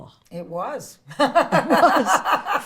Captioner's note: laughs